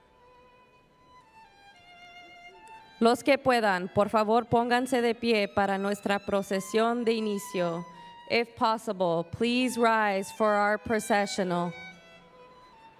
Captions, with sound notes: [ Speaking Spanish ] If possible, please rise for our processional.